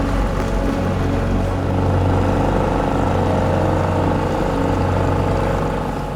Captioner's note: solemn music; boat engine rumbling